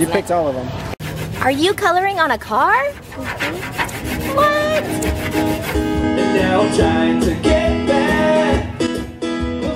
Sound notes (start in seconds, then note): 4.2 hums agreeably